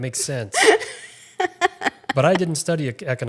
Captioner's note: laughing